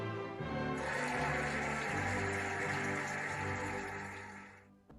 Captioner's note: cheering and applauding